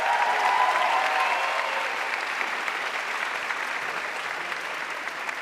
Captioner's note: audience cheering and applauding